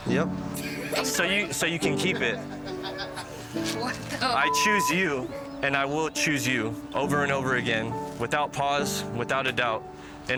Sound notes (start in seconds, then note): 0.5 guests laughing; 4.5 beep